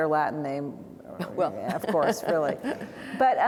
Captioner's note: laughs